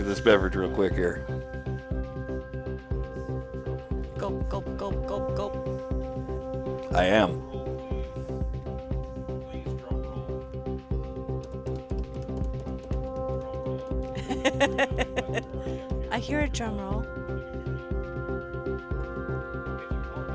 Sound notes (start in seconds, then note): 9.9 laughing; 17.8 upbeat music